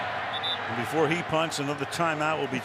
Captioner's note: whistling